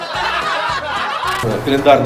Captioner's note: laughter